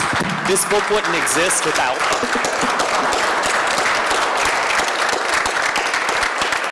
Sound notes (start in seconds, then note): 2.2 applause